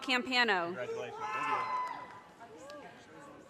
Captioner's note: audience cheers and applause